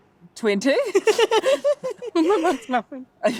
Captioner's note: laughing